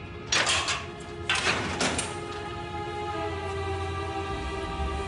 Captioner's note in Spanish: Sonido al abrir la reja